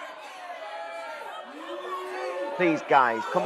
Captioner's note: crowd booing and shouting